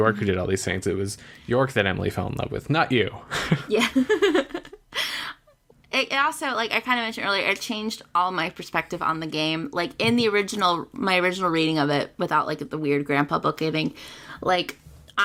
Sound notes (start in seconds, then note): 3.5 laughs